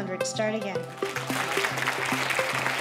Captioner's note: applause